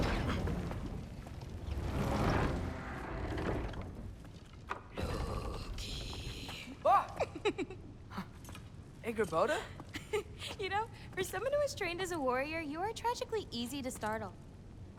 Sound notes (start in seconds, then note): 5.0 whispering; 6.8 laughs; 10.0 laugh